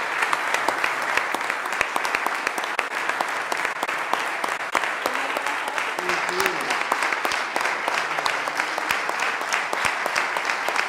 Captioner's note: applause; cheers & applause